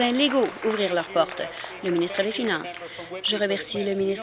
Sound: applause

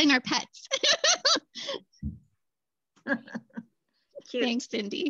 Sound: laughter

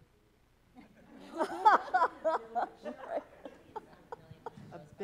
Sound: people laughing

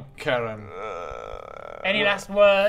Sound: cries

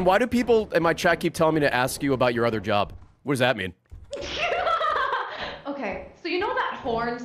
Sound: laughs

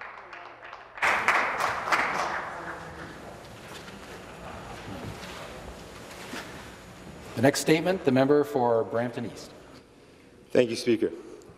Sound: applause

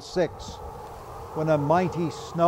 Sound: wind whistling

